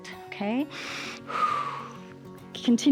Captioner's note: inhales and exhales